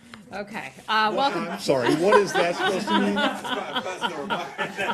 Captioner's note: laughter; laughter